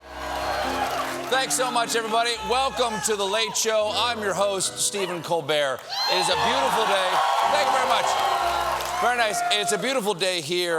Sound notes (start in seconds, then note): 4.9 cheers and applause